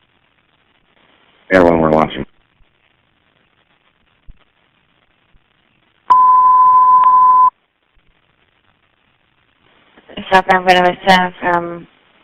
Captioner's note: emergency tone